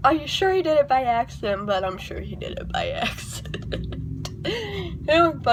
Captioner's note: chuckles